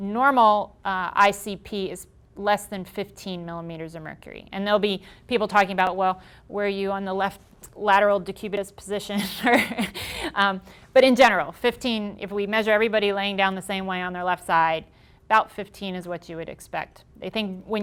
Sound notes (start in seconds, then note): 9.4 laughing